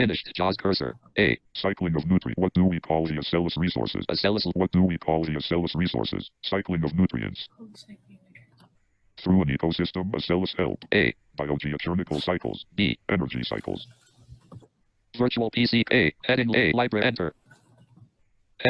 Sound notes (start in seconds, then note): 2.3 screen reader voice slows dramatically